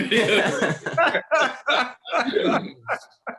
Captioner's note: all laugh